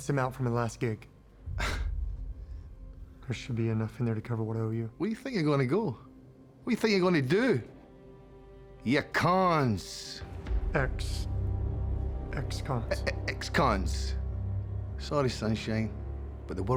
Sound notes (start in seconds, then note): 1.4 sighs; 5.1 scottish accent; 13.0 scottish accent